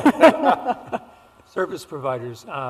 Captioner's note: laughter